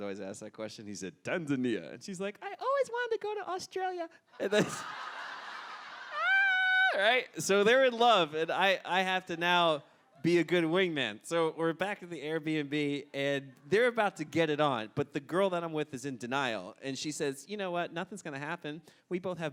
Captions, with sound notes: Americans always ask that question, And he said, "Tanzania." And she's like, "I've always wanted to go to Australia." (Audience Laughter) Ahhh, right? So they're in love, and I have to now be a good wing-man. So we're back at the AirbnB, and they're about to get it on, but the girl that I'm with is in denial, and she says, "You know what, nothing's gonna happen.